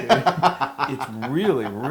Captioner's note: laugh